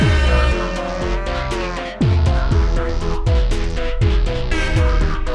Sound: cows moo in the background; insane airhorn noises; shitting music continues; cows moo in the background; cows moo in the background; shitting music continues; single air horn toot; cows moo in the background; shitting music continues

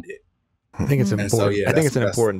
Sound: overlapping chatter

